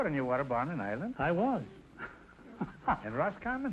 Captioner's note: laughing